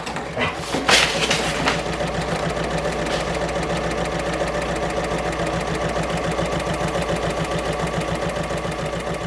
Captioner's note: sewing Machine Sounds